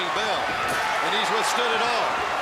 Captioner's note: crowd cheering